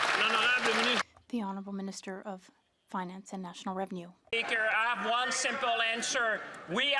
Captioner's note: applause